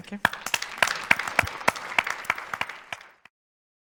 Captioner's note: audience applauds